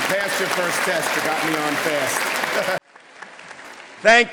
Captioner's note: chuckling